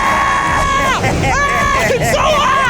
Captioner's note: screaming; laughing